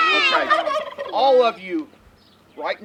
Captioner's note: turkeys gobbling